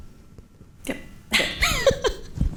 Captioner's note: laughs